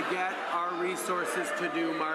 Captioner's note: applause